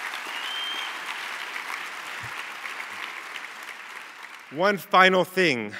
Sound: cheers and applause

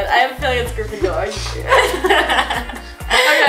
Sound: laughs; sniffs

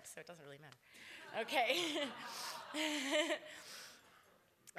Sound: laughter

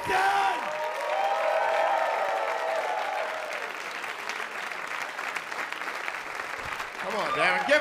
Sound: applause

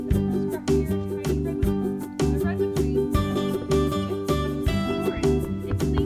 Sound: tour guide speaking in background

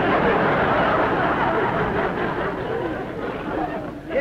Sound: laughter

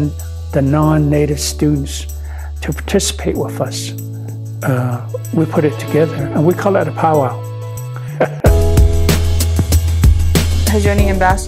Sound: laughs

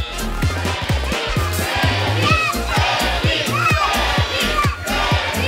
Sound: people chanting in unison

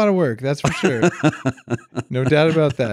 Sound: laughing

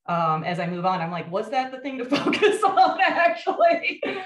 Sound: laughs

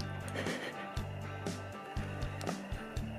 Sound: more quiet laughing

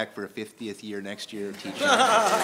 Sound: laughter; applause

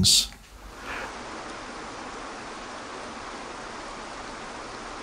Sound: water rushing

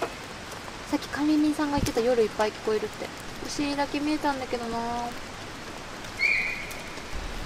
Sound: the voice of the deer

